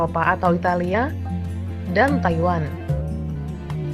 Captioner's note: Italian